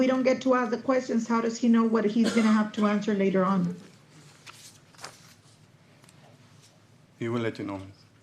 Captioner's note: clears throat